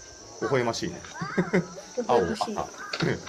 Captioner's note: laugh